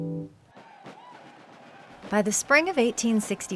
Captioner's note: upbeat percussive music; guitar strum; soldiers cheering